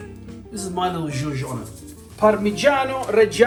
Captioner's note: speaking Italian